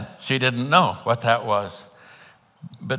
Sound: none

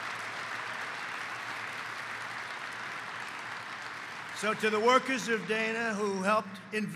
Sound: applause

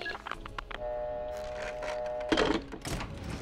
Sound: phone ringing

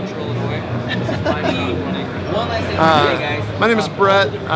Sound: laughs quietly

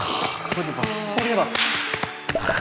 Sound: sound of happiness

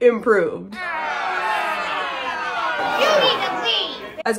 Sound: crowd booing

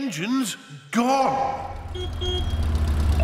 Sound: horn honks

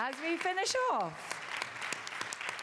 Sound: applause

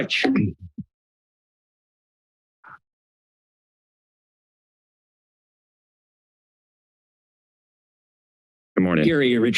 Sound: silence

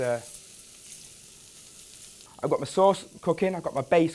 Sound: sizzling

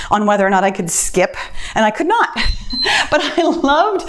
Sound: timer beeps

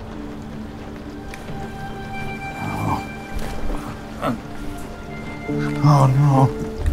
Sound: Arthur grumbles, annoyed at first, then worried

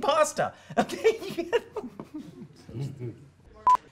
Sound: laughter

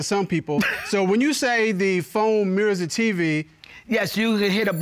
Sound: chuckles

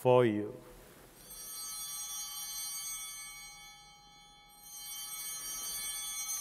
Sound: chimes ringing

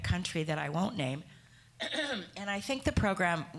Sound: clearing throat

